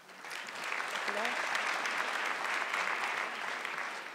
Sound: audience clapping

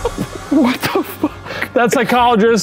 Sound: laughing

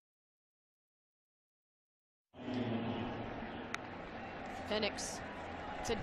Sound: crowd noise

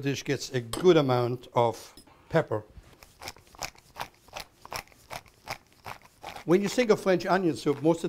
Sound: grinding

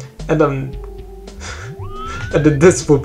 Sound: quiet laughter

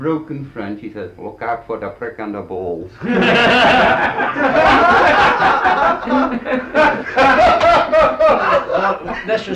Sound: laughter

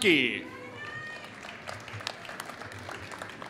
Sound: applause

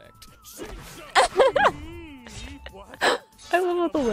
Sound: laughs

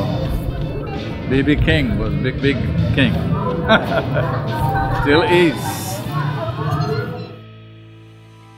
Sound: laughs

